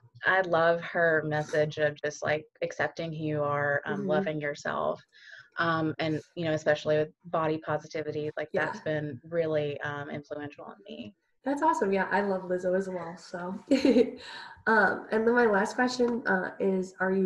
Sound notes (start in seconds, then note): 13.7 giggles